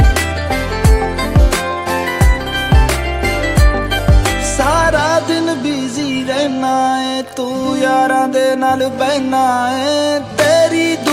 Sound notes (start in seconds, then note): none